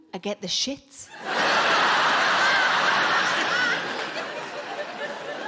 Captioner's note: audience laughing